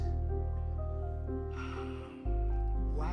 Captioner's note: sighs